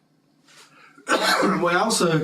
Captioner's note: cough